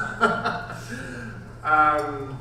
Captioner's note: laughing